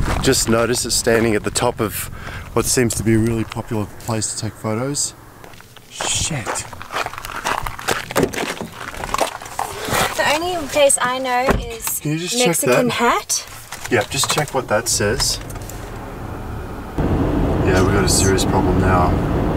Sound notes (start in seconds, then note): 5.3 shoes crunching gravel